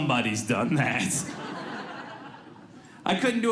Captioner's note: audience laughs